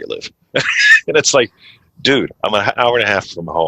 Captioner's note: laughs